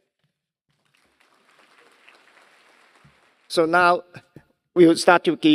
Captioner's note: applause